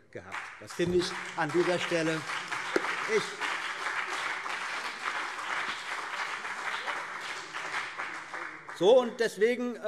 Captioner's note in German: Beifall CDU und BÜNDNIS 90/DIE GRÜNEN